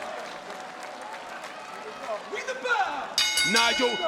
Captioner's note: applause